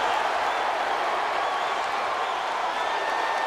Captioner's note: crowd roars